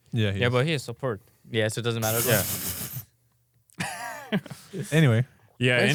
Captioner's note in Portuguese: risos